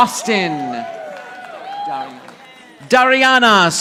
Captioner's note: audience applauding